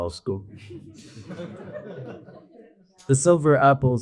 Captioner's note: audience laughs